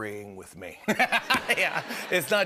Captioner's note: laughter